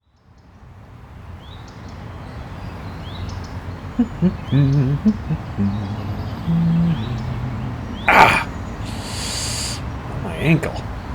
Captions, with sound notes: [Birds chirping] Ow…tsss rolled my ankle.